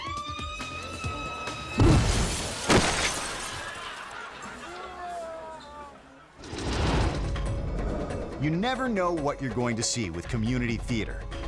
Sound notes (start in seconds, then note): 1.7 shopper screaming; 1.8 crook thudding; 1.8 glass shattering; 3.4 crook slamming; 3.4 audience laughing; 4.9 crook moaning; 6.9 logo swooshing; 8.3 upbeat music